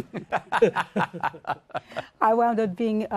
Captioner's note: laughs